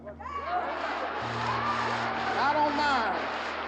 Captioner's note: audience shouts